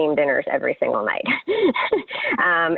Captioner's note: laughs